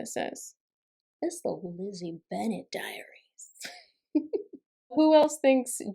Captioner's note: giggling